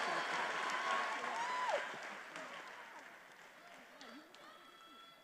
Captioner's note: attendees applauding and cheering